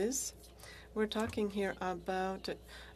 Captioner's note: speaking French